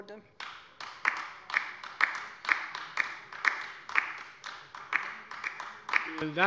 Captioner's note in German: Beifall bei der LINKEN